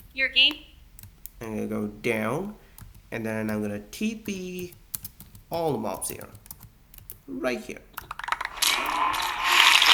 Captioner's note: applause